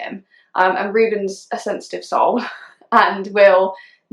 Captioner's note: laughing